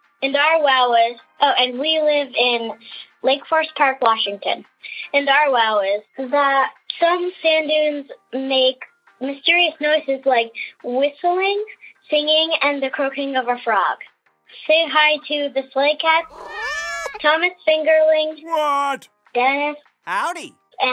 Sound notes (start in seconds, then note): 16.2 soundbite of cats meowing